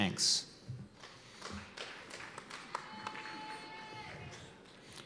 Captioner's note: cheers and applause